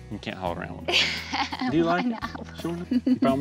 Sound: laughing

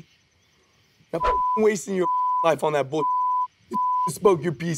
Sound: beep; beep

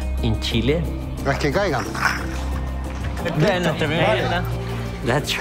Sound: speaking Spanish

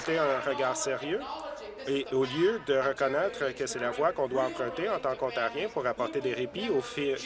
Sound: applause

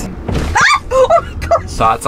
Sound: yelling

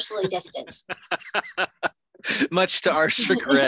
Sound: laughs

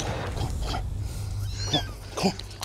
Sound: kitten whimpers

